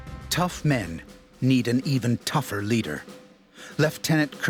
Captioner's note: voiceover